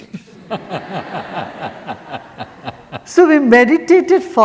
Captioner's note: audience laughs